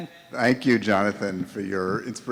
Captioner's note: voiceover